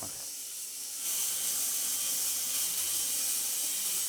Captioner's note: machine whirring